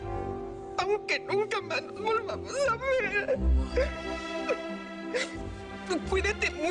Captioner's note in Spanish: Llorando